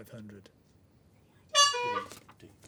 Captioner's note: honk